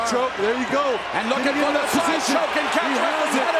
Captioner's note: excited cheering